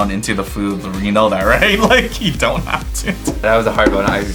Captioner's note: laughs